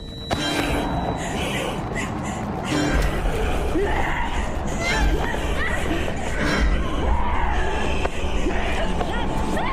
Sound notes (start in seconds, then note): 2.6 creepy woman roars; 4.0 woman screams